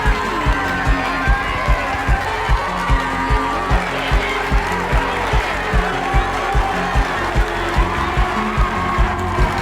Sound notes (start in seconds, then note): 0.0 audience cheers and applauds; 0.7 singer vocalizing continues